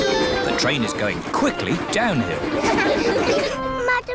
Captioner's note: laughter